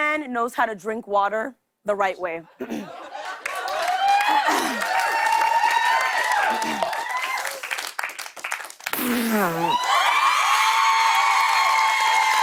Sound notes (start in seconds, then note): 2.6 clears throat; 3.2 cheers and applause; 8.9 spits; 9.6 cheers and applause